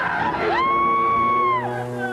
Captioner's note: dramatic music; scream